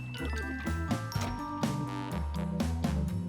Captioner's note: sloshing